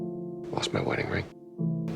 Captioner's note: voiceover